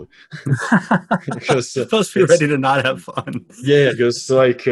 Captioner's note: laughs